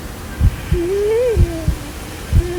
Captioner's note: heartbeats; labored breathing; heartbeats